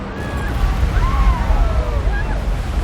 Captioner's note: people screaming